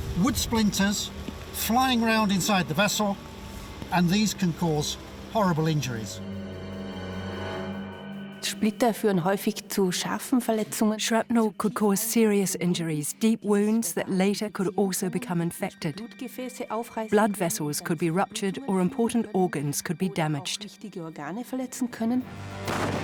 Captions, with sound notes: Wood splinters flying around ine the vessel, which cause horribl. (speaks German) (dubbed in English) Shrapnel could cause serious in. Deep wounds that later could also become infected. Blood vessels could be ruptured or important organs could be da.